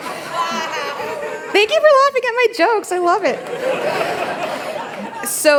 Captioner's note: laughter